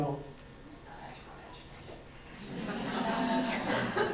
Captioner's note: whispering; audience laughs